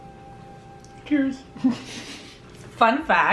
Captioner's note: laughing